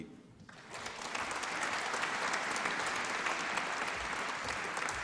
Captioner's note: applause